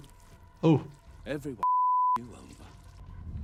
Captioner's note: beep